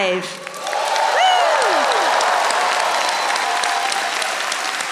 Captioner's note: audience applauding